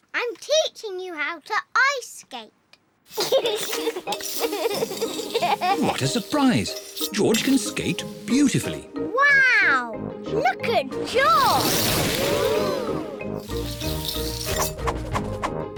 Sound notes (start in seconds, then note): 3.1 giggles